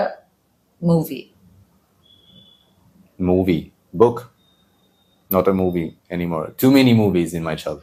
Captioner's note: birds chirping